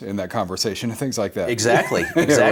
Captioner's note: laughs